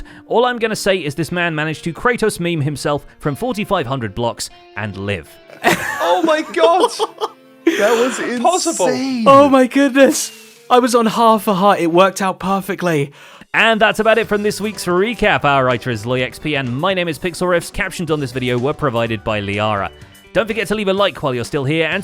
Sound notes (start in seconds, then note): 8.0 laughing